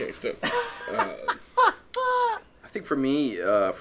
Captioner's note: laughing